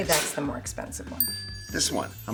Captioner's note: bell dinging